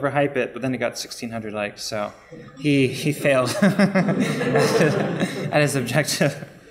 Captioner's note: laughing